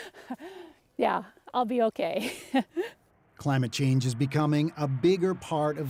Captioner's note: laughter